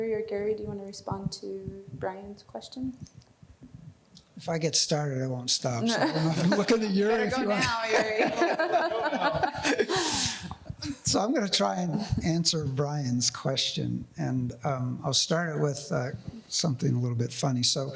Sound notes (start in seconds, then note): 5.9 panelists laughing; 10.3 laughs